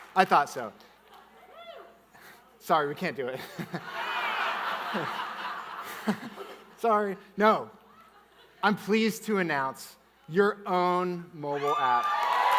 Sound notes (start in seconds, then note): 3.4 chuckles; 3.4 audience laughing; 6.0 chuckles